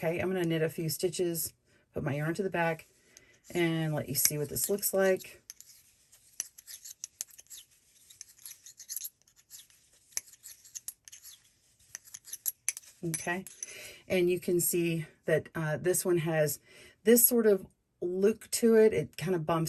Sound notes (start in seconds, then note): 6.1 clicking of needles